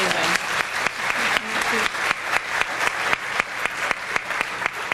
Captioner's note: audience applauding